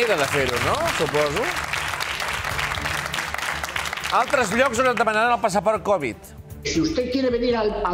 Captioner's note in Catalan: aplaudiments